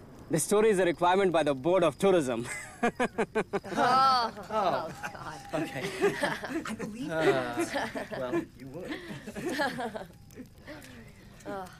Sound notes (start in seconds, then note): 2.6 all laughing